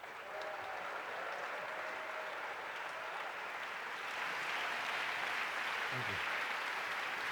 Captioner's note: applause